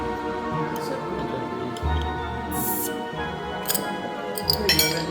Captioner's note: indistinct chatter